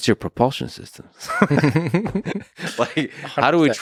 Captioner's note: Lex laughs; Tim laughs